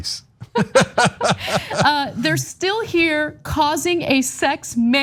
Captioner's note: laugh